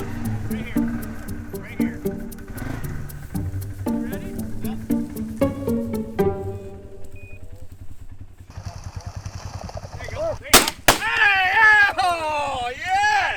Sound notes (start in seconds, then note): 7.0 collars beeping; 11.0 cheering